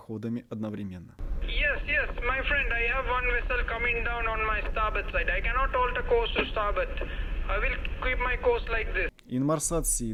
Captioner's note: Call from VHF